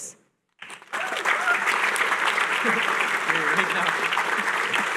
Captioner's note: applause